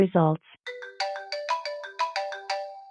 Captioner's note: phone rings